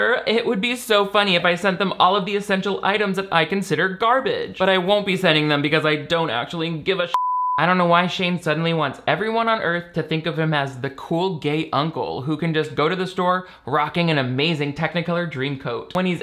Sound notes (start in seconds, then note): 7.1 beep